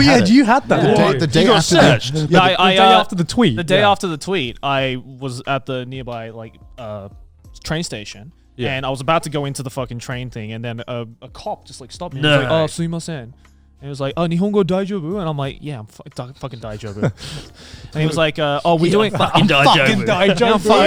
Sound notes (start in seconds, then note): 14.6 foreign language